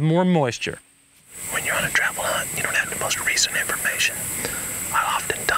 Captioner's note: whispering